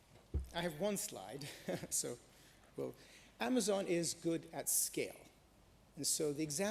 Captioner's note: chuckles